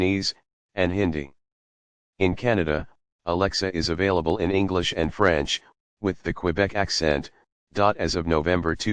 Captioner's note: with the Quebec accent